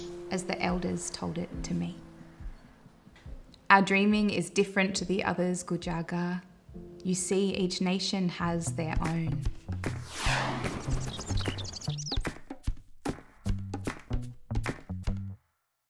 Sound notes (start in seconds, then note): 10.6 upbeat music; 10.6 birds chirping